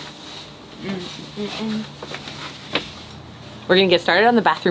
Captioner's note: hums